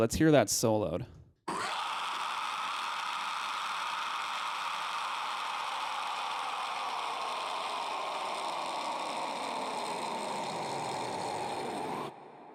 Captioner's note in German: isolated scream